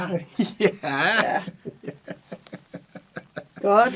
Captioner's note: laughs